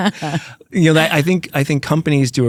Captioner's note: laughs